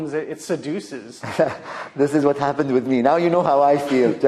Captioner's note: chuckles